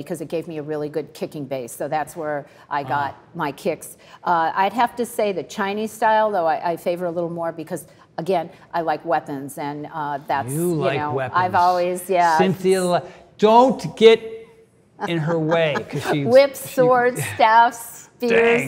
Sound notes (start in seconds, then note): 15.0 Cynthia laughs